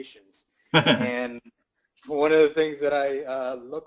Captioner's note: laugh